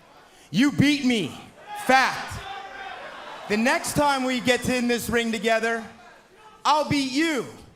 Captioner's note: fans chanting